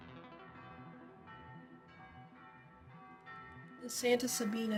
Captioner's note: SOUND: *Church bells ringing